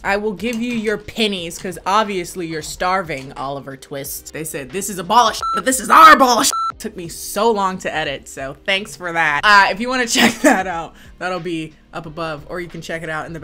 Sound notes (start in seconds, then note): 5.4 beep; 10.2 laughs